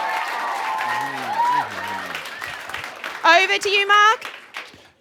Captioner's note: cheering and Applause